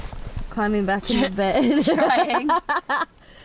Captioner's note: laughs